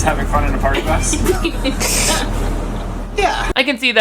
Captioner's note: laughs